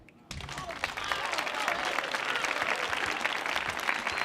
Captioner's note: audience cheering